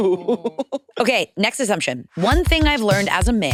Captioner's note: participants laughing